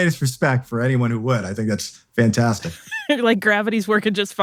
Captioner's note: laughs